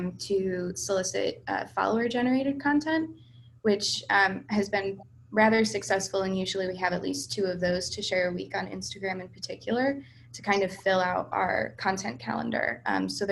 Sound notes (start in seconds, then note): none